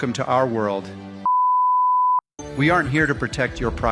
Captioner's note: beep